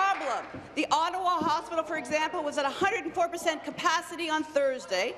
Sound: applause

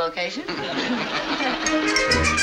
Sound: laughing

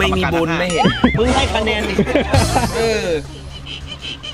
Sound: laughs

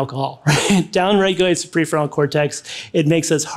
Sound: laughs

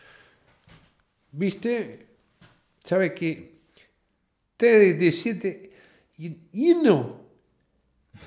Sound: in Spanish

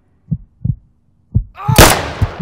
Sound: scream and gunshot

